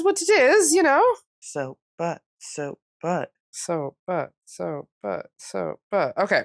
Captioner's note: both chanting